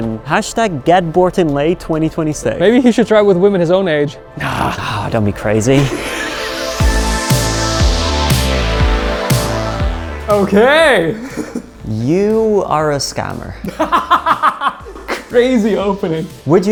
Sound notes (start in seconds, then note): 5.7 laughs; 11.1 laughs; 13.6 laughs